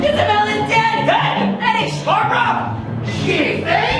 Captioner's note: yelps